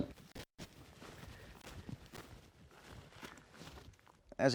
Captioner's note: feet stomping